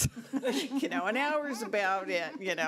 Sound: board laughing

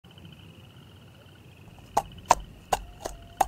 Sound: crickets chirping; horse hoofs clopping

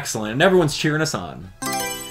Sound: Mario Selection Sound

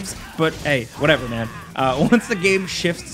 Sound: laughs

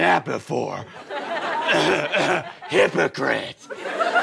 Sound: coughs

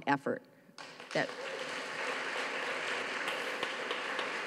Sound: audience claps

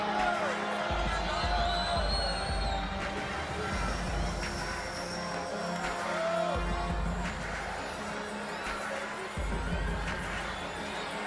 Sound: cheering

